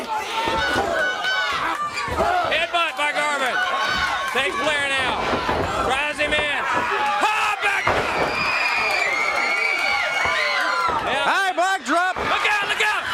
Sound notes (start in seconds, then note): 7.0 crowd cheering